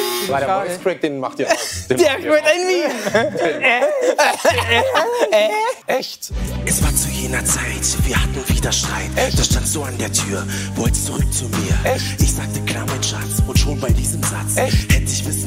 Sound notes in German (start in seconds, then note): 2.6 Krächzen, Lachen